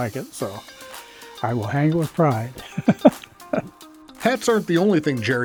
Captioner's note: laughs